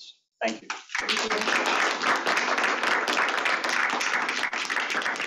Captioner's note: crowd clapping